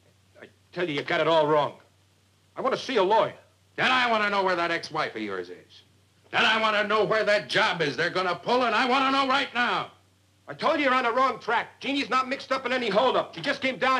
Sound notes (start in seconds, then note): none